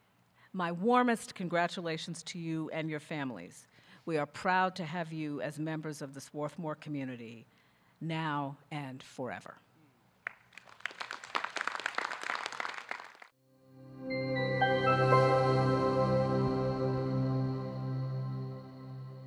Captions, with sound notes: My warmest congratulations to you and your families. We are proud to have you as members of the Swarthmore community now and forever. (audience clapping)